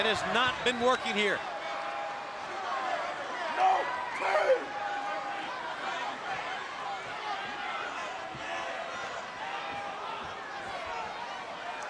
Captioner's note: crowd chatter